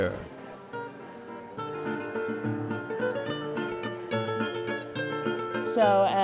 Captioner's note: voices echoing